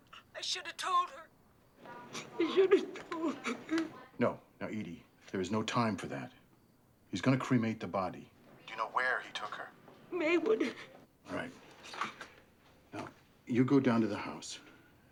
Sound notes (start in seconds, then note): 0.0 crying over phone; 1.8 crying